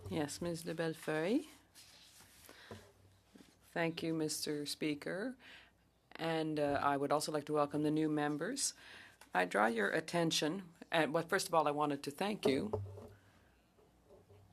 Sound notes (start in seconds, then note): 10.7 speaking French